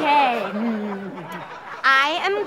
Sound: audience laughter

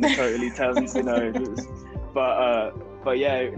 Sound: laughing

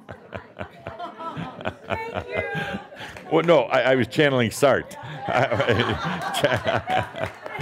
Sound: more chuckles; laughing

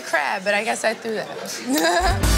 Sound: laughing

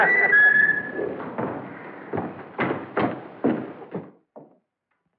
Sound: footsteps

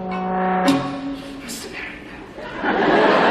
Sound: whispering

